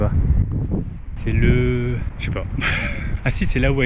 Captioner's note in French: rire